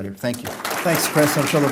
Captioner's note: applause